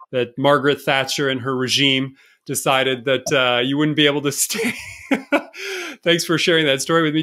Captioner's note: chuckle